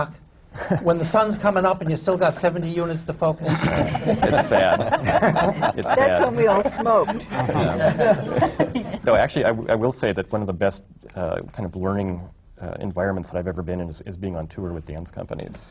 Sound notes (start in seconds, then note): 0.2 laughs; 3.4 laughter